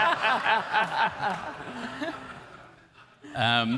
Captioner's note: all laugh